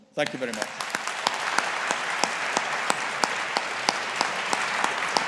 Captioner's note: audience applauding